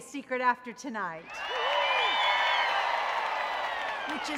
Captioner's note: audience cheering